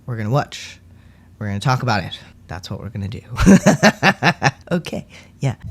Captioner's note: laugh